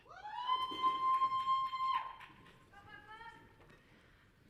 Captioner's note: audience cheering